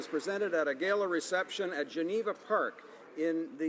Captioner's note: some Applause